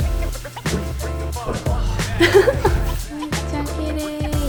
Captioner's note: laughs